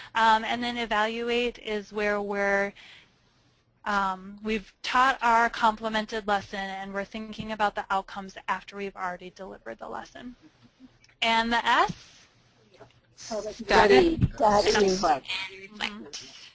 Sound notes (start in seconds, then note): 13.5 voiceover